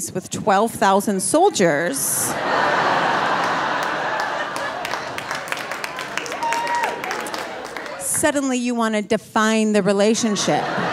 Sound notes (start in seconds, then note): 2.0 audience laughing and applauding